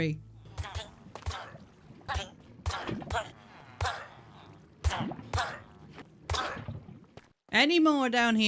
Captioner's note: death noises